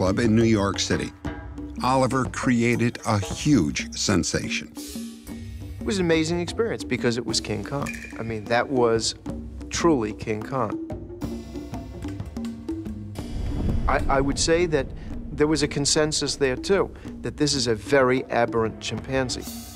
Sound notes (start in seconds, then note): none